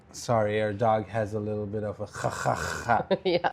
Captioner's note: breathing problems